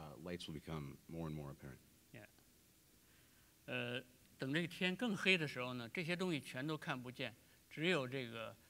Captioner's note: speaking in Chinese